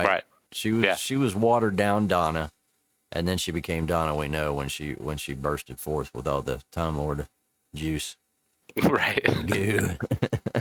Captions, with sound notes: She was watered down Donna, and then she became Donna we know when she bursted forth with all the Time Lord juice. Right. (laughs)